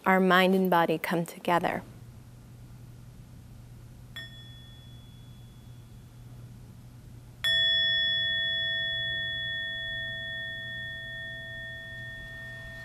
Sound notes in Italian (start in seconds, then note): 7.4 suono di campana